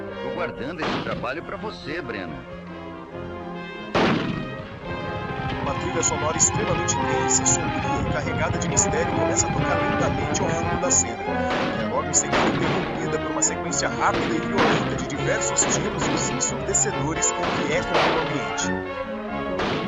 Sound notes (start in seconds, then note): 5.5 tense music; 11.4 gunshots